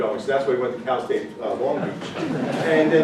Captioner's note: audience laughing